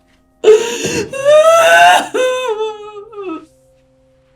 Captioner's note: crying